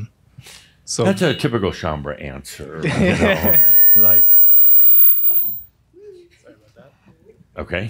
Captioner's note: they chuckle